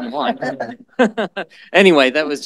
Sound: laughter

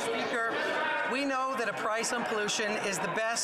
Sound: yelling

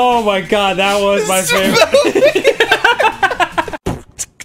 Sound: laugh, ONCE AGAIN

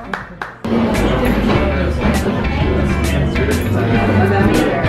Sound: chattering

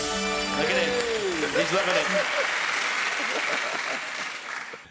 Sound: chiming; applauding

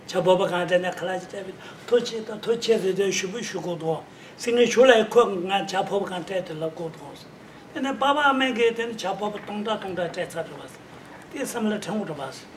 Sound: speaking in foreign language

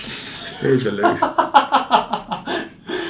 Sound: laughing

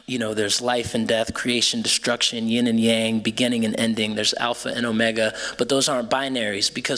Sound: none

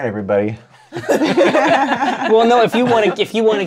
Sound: laughter

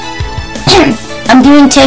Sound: random cough

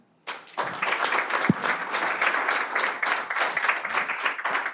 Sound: applause

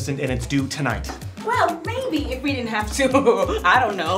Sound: chuckle

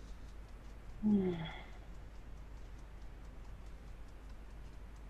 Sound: moans softly

